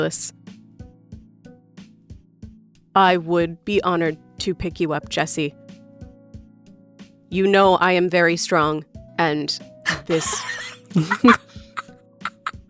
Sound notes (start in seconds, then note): 9.8 SOMEONE giggles